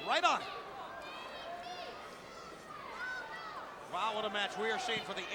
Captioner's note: crowd chattering